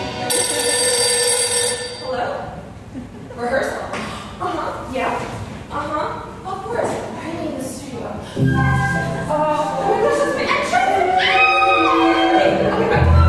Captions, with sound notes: Hello? Rehearsal?! Uh-huh. Yeah. Uh-huh. Of course. Why am I in the studio? Oh my gosh, that's my entrance?! (screams) Okay, bye!